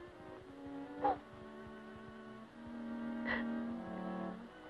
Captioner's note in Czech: Pláč